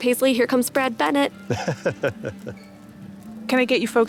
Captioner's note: laughs